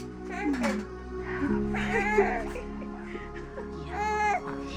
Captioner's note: baby crying